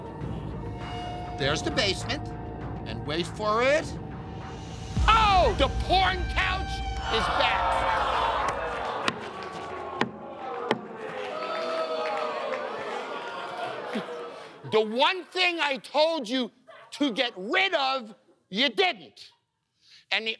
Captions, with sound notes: There's the basement, and wait for it... Oh! The porn couch is back! [audience groaning] [booing] The one thing I told you to get rid of, you didn't.